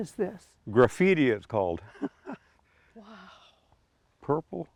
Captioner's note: chuckles